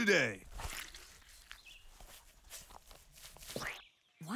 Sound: squish

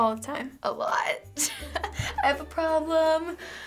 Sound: laughs

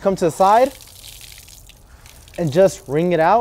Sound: water dripping out

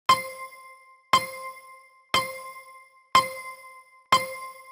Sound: countdown timer chiming

